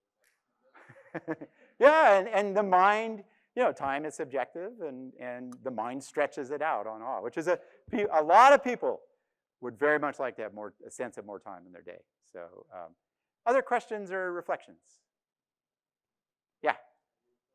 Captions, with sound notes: (laughs), Yeah, and time is subjective and the mind stretches it out on awe, which is a lot of people would very much like to have a sense of more time in their day. So other questions or reflections? Yeah.